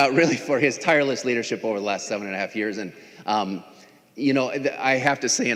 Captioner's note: laughing